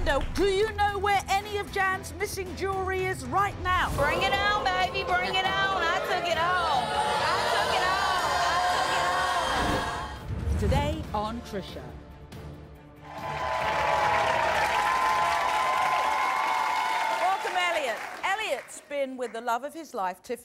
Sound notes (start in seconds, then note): 8.8 audience boos; 13.0 crowd cheering